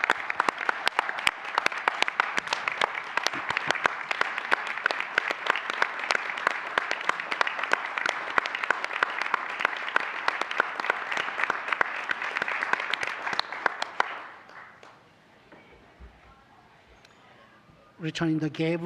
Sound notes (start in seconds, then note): 6.2 applause